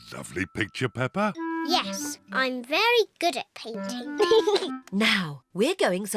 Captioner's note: giggles